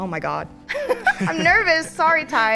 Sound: laughs

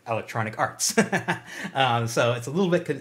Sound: chuckles

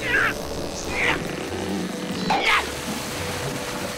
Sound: grunting

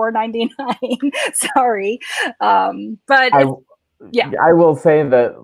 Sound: laughs

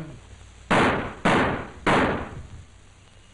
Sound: 3 gunshots

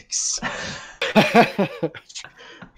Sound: laughs

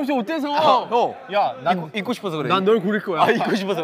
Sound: stammering

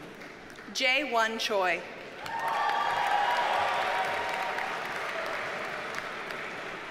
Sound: audience cheers and applauds

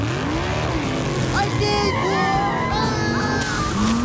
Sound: screaming

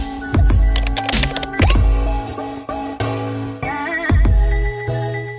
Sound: keyboard typing sound

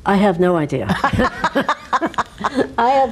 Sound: both laugh

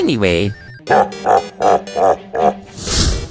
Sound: Bowser laugh

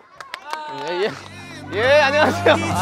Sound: clapping

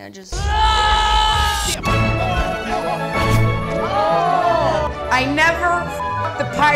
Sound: yelling

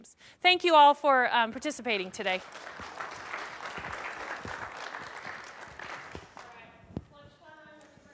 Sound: applause

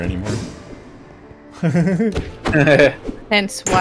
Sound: nervous laughter; chuckles

